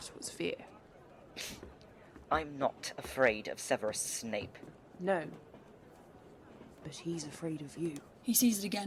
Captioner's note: Lupin snorts